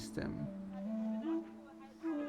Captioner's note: indistinct chatter